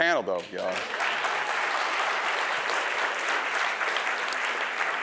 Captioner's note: audience applause